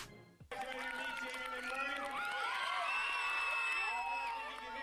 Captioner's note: cheering